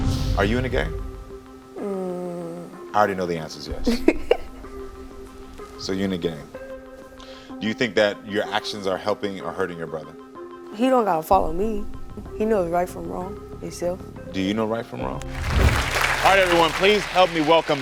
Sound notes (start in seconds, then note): 3.8 laughing